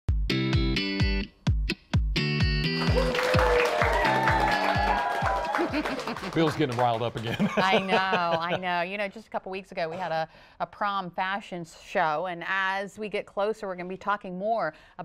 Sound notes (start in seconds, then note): 0.2 applause; 0.2 cheering; 7.2 laughter